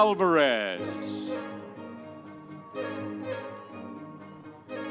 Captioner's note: audience cheering